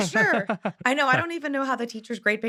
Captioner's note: laughing